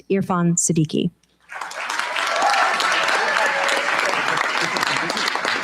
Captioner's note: cheers, applause